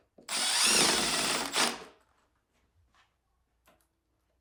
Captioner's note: driller whirring